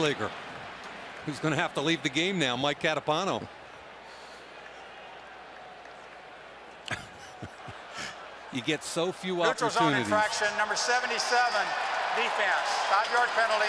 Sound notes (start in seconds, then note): 6.8 laughs